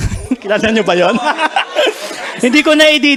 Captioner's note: laughter